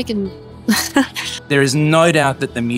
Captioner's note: laughs